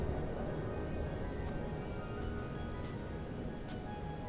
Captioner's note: footsteps in snow